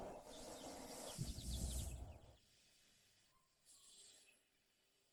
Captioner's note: birds chirping